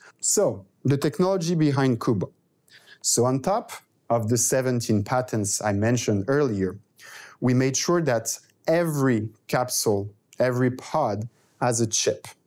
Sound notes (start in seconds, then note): none